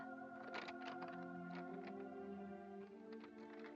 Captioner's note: uplifting music; cash rustling; uplifting music